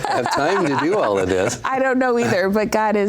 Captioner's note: laughs